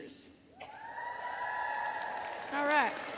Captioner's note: audience cheering